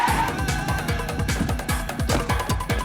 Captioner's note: tires squeal